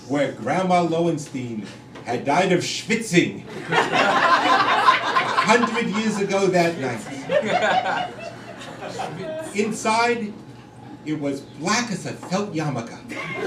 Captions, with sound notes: where Grandma Loenstein had died of schvitzing, [crowd laughing] a hundred years ago that night. Inside it was black as a felt yarmulke.